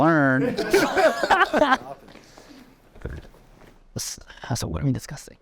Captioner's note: everyone laughing